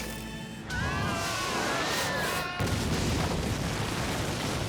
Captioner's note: explosion; screaming; explosion